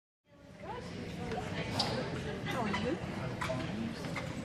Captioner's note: crowd chattering